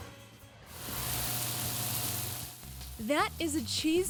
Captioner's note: meat sizzles